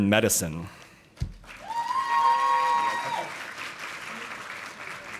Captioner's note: audience applauding